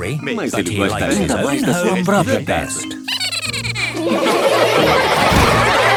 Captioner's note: Steven giggles; all laughing